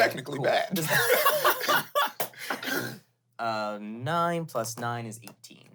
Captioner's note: everyone laughs